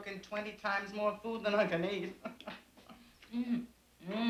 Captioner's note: chuckling